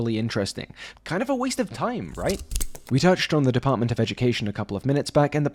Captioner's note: snip